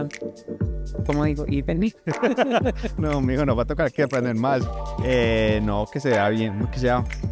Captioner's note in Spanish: risas